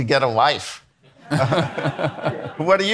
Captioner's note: attendees laughing